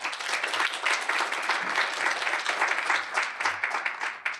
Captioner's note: applause